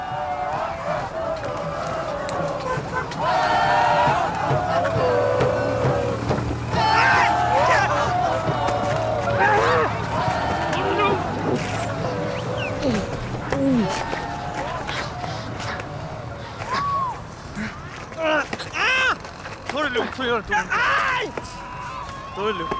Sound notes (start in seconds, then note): 0.2 people shouting; 12.8 man grunting; 15.4 breathes heavily; 17.5 robber grunting